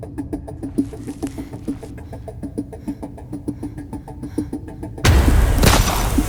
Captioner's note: Ellie breathes uneasily; gun firing